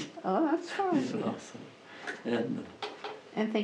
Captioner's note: laughs